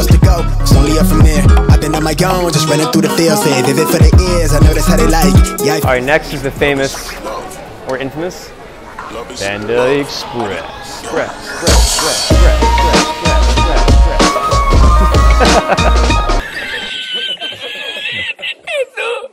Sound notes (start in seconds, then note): 11.7 fast-paced techno music; 14.9 laughs; 15.0 old man laughs